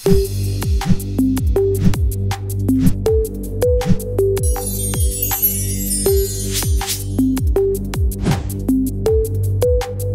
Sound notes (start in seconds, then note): 0.9 digital music; 4.4 chimes ringing